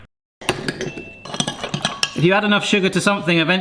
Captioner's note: spoon clanks